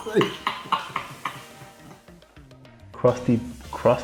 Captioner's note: both laugh